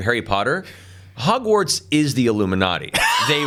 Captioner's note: chuckles